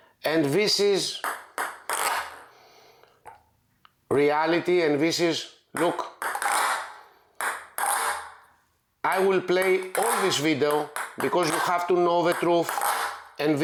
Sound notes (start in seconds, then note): 7.3 ball bouncing